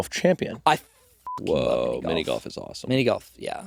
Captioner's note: beeping